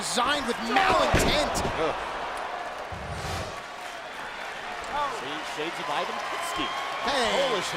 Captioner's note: applause